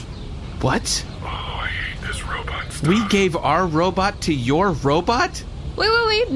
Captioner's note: whispering